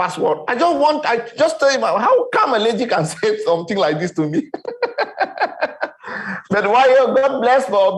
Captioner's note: laughing